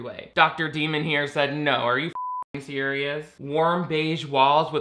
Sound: beep

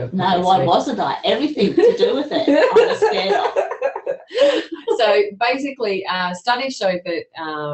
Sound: laughs

